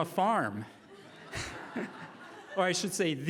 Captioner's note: laughing